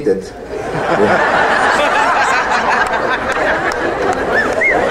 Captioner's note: audience laughs